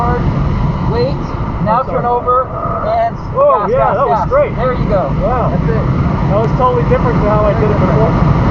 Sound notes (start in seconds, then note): 0.0 tires Screeching